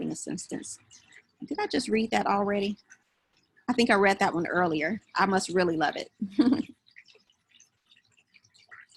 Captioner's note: laughs